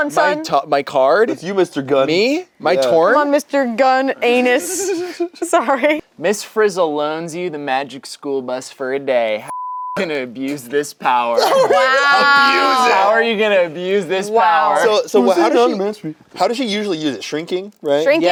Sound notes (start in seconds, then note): 9.5 beep